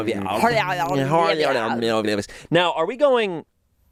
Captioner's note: babbling